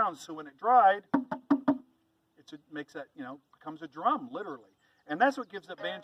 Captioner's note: knocking sound